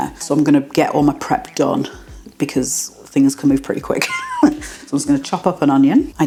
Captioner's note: laugh